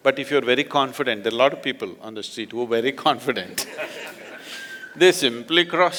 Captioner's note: laughter